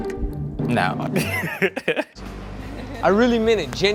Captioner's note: laughs